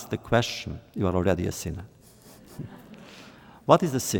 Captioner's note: laughter